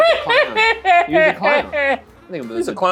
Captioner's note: laughs